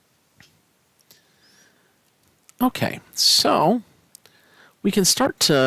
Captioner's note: no Speech Detected